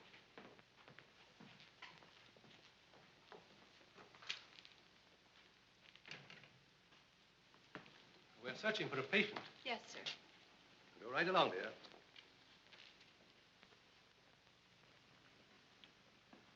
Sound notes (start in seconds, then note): none